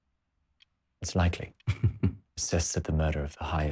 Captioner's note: Josip laughs